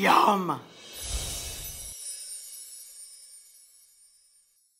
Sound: chimes ring

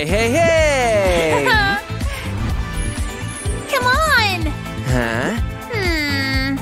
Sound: making happy sounds

